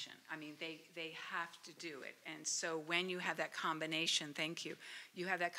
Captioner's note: none